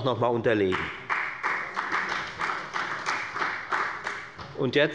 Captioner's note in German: Beifall bei der FDP